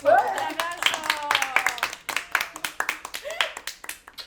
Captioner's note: applause